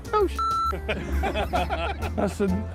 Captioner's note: laughter